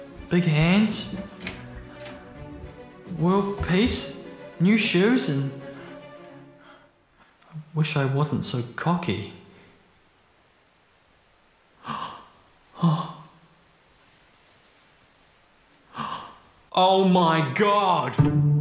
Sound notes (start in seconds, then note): 12.8 gasps loudly